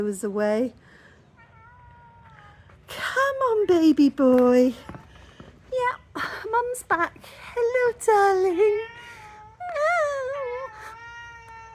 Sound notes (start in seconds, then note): 4.8 meow; 8.6 me mimicking whingy meow; 8.8 loud meow in return